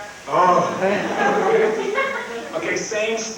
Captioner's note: crowd Laughs